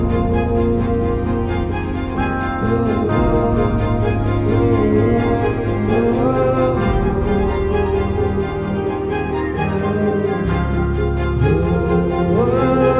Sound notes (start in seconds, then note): none